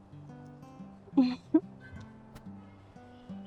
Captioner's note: chuckles